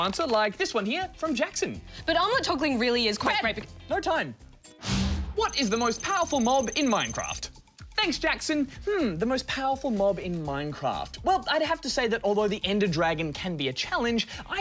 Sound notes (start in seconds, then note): none